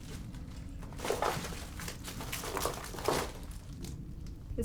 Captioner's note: debris crunches